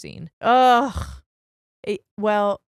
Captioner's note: groaning